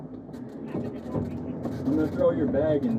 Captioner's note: radio chatter